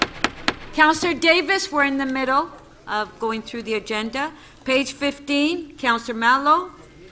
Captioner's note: gavel